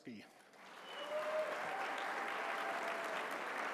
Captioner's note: applause